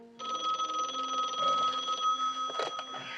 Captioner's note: Telefon çalıyor